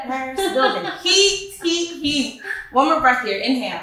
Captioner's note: laughing